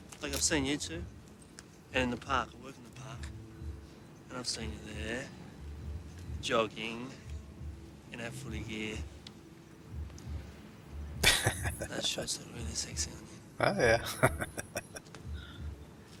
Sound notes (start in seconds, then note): 11.2 laughing; 13.6 chuckling